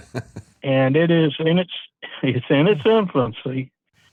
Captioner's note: laughing